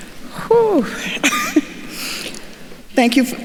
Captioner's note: chuckles